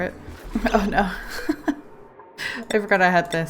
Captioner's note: laughs